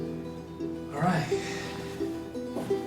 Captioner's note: sighs